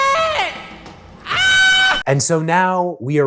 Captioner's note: screams